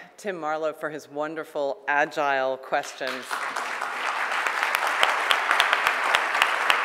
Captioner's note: audience clapping